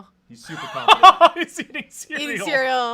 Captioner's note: laughs